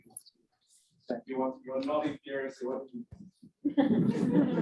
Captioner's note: off mic chatter; audience laughs